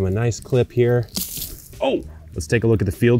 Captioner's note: stem snaps